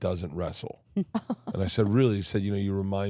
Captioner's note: Steph and Elyse laughing